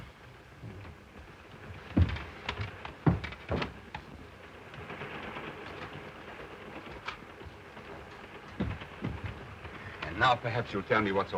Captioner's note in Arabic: صوت خشخشة القطار